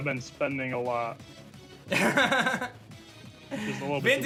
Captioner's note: chuckles